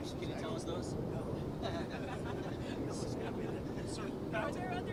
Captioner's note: laughs